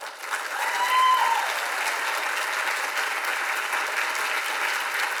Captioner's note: audience applauds and cheers